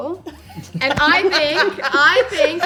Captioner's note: chuckles